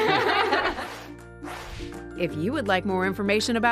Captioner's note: laughter